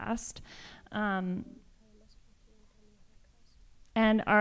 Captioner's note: speaking spanish